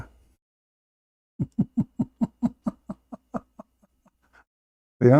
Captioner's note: Ketawa